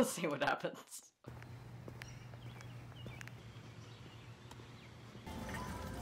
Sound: walking outside, birds chirping

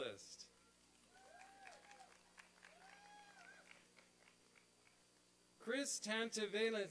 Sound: applause and cheering

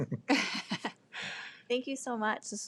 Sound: people chuckle

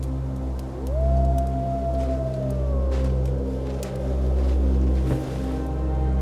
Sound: wolf howls in the distance

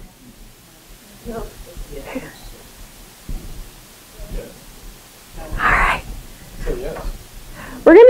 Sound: murmuring

